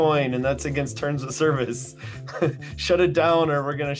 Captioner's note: chuckles